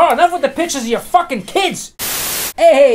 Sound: static hisses

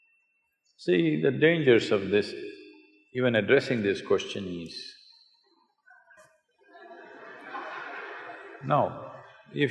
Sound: laughter

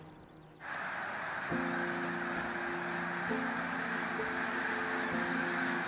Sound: birds squawking

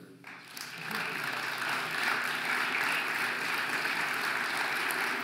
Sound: audience applauding

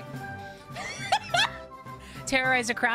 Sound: laugh

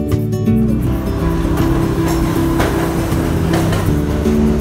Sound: train rumbles

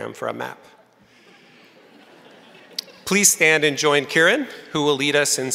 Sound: crowd laughing

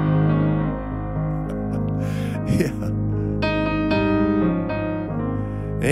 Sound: chuckles

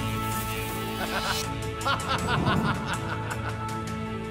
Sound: landlord laughs

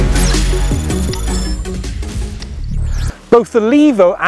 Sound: electronic beeping

